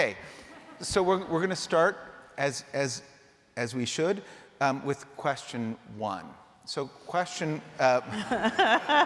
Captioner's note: laughter